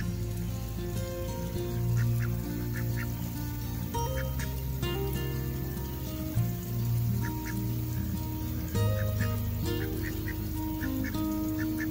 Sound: sound of ducks quacking softly

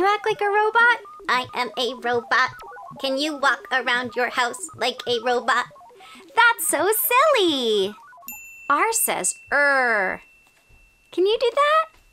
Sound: robot voice

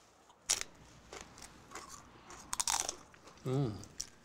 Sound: loud crunching

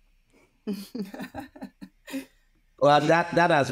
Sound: laughs

